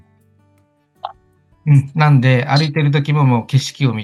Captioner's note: laughs